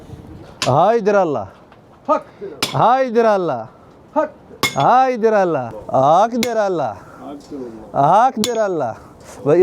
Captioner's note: Turkish